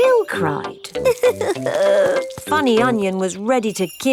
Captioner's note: crying